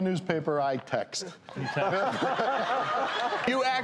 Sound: laughing

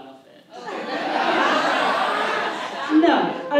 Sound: audience laughs

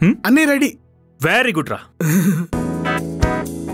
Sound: Carrot chuckle

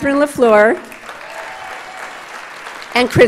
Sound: audience applauds

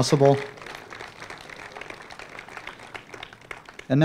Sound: applause

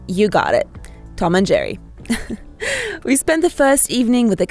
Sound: chuckles

